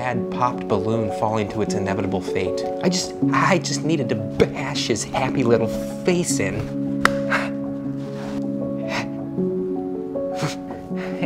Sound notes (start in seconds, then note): 6.9 smacking; 8.8 shaky breathing